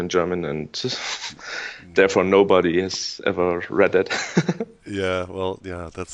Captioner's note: laughs